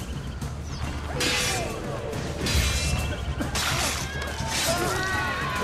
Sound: fighting sounds

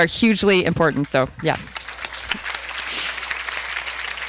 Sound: applause

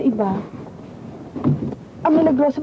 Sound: clothes swooshing

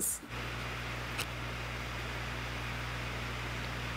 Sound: fan whirring

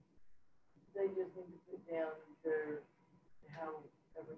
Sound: speaking faintly

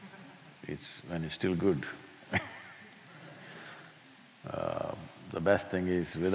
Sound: laughs

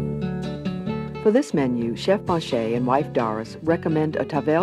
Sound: voiceover

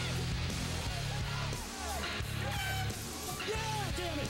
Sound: horn toots

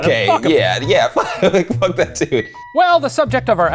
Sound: laughs

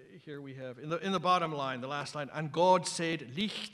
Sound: reading in middle english

